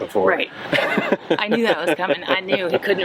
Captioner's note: laughs